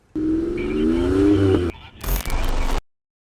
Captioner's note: engine revving